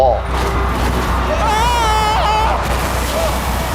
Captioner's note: screaming; cheering